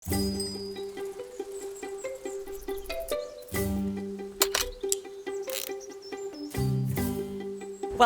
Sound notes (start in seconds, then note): 0.0 bike bell ringing; 0.2 bright music; 4.4 bike lock clicking; 4.4 kickstand clicking